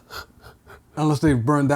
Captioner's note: gasping